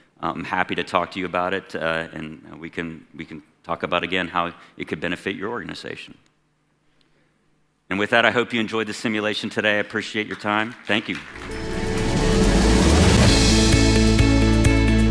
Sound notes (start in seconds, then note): 10.6 audience applauding; 11.3 upbeat music